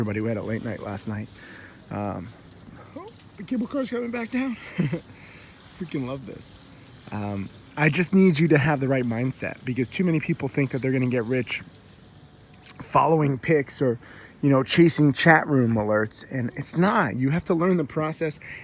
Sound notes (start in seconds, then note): 4.5 laughs